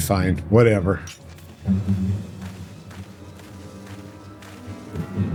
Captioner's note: humming